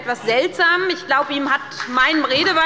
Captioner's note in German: Beifall bei der SPD und der FDP